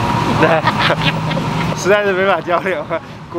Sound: again, tactically embarrassed laughing

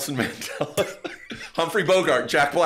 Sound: laughs quietly

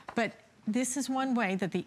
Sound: counting

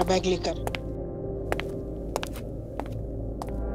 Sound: footsteps approaching

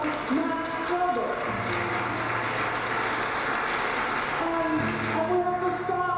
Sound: crowd applauds

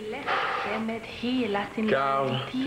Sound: En allemand

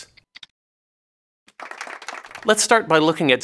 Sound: applause

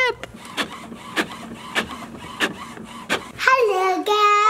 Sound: printer printing

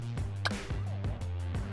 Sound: pop

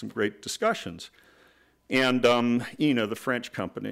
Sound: none

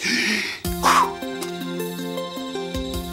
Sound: donkey exhales; gentle instrumental music

